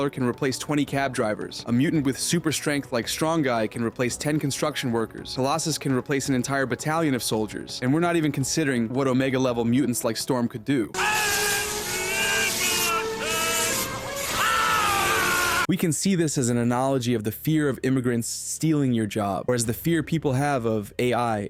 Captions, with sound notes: can replace 20 cab drivers. A mutant with super strength like Strong-Guy can replace 10 construction workers. Colossus can replace an entire battalion of soldiers, and we're not even considering what omega-level mutants like Storm could do. (screaming) We can see this as an analogy of the fear of immigrants stealing your job, or as the fear people have of AI